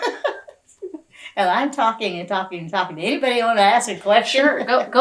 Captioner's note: laughs